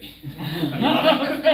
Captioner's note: laughter